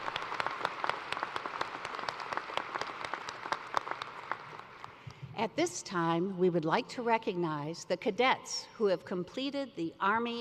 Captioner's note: cheers and applause